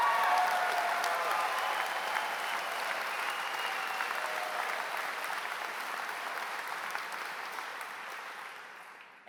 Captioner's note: applause